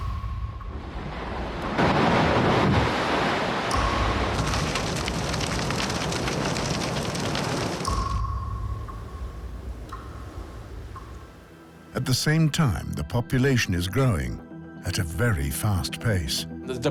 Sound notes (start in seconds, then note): 1.3 ice splashing into water; 3.6 crackling fire; 8.3 blowing storm